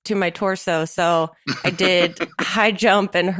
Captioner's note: chuckles